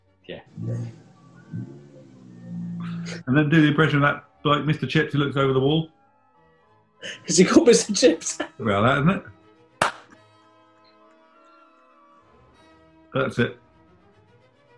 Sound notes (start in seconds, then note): 7.0 laughing